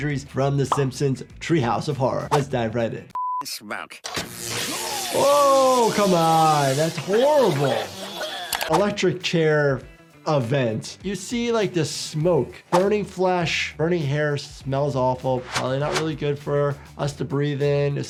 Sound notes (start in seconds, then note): 4.2 electricity buzzing